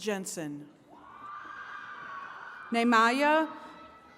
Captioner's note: attendees cheering